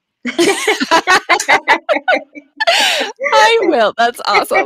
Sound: laughing

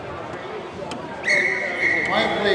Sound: whistle blowing

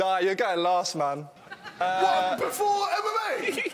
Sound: laughing

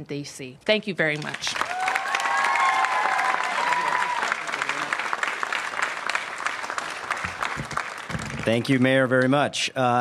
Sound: applause

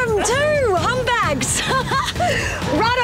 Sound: laughs

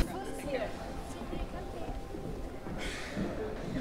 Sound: guests murmuring

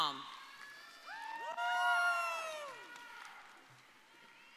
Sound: audience cheering

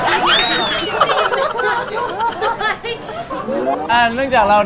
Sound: dies laughing

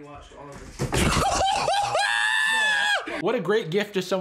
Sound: scream laugh

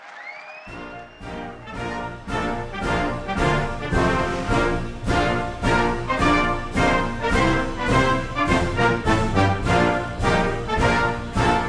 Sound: applause

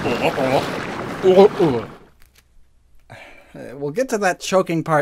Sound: two questioning gulping noises together, followed by multiple gulping noises; gulping noises continue, followed by ocean waves

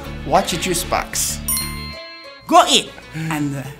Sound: ding resounds

